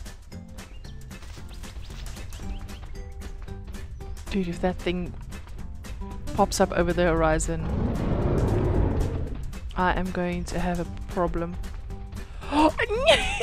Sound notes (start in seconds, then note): 7.6 AI Rex Roars; 12.4 gasps and giggles